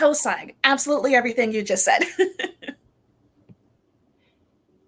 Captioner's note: laughs